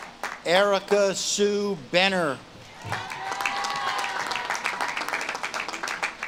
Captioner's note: audience claps and cheers